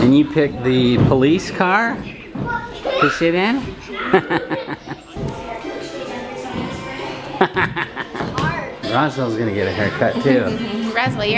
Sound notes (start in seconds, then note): 3.8 laughing